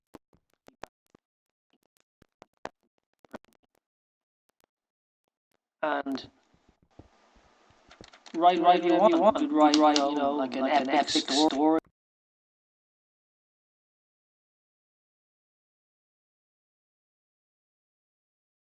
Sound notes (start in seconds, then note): 6.3 audio missing; 11.7 audio missing